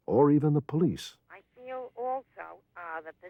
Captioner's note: on phone